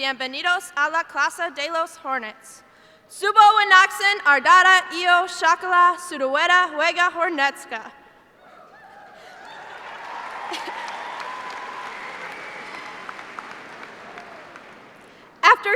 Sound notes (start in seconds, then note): 4.1 speaking foreign language; 8.6 cheers and applause